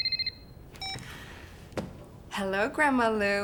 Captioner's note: phone beeping